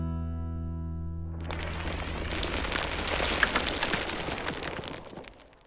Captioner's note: cracking concrete